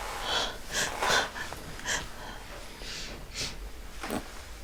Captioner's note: sobbing